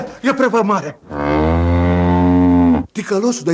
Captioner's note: sound of a cow mooing